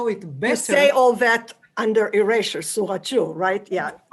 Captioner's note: non-english